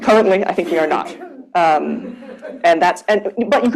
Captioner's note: laughter